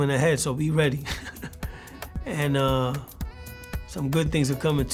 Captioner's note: laughs